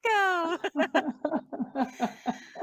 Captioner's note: laughs